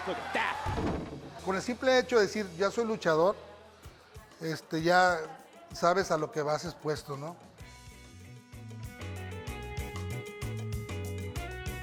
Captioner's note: Rey Misterio speaking Spanish